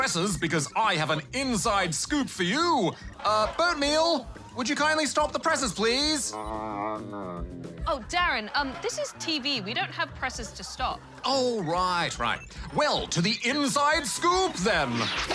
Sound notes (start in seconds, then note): 6.3 grumbles